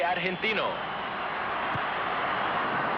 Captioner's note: crowd roars